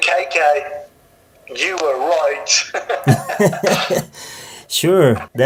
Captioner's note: laughs